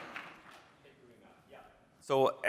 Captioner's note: applause